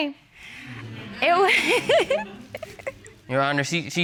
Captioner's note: laughs